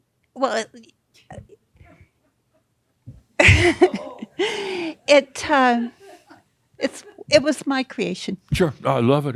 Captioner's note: she chuckles